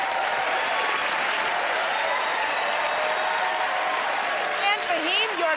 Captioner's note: cheers and applause